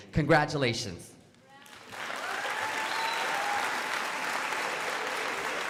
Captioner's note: crowd applauding